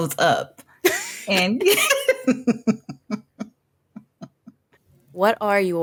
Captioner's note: chuckle